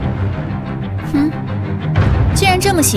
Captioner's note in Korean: 콧방귀